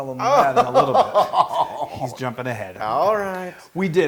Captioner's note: laugh